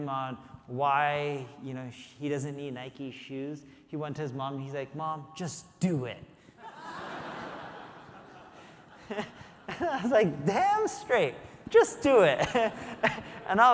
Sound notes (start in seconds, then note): 6.6 audience laughing